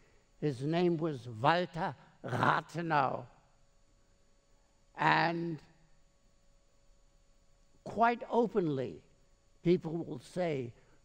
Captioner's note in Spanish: habla alemán